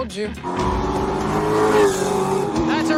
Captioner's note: engine rumbling